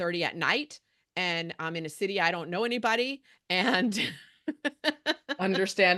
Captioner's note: chuckles